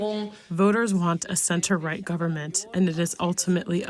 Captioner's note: through translator